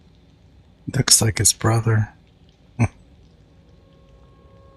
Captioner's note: chuckling